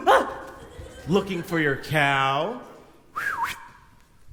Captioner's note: whistles